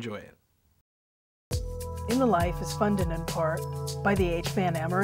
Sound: announcer, over music

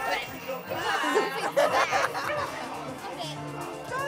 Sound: laughs

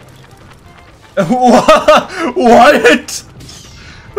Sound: laughs

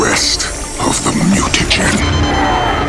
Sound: beeping

